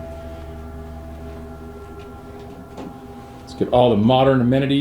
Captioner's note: faintly speaking